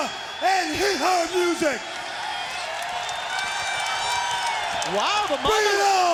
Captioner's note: crowd cheering